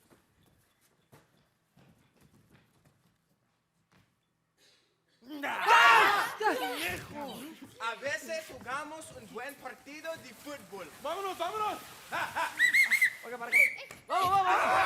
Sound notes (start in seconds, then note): 5.5 performers screaming; 7.9 speaking Spanish; 12.5 whistle blowing